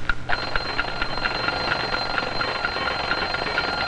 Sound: alarm sounds

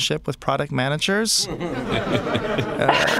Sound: laughter

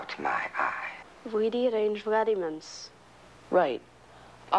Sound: Molly speaks in foreign language

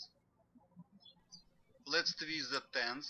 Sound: birds chirping

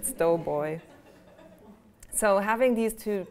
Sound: laughter

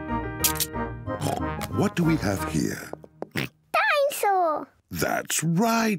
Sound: oinks

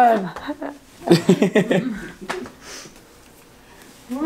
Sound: laughing

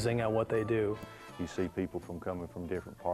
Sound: with Southern accent

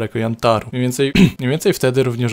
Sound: ahem

